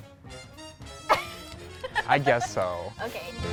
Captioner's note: laughs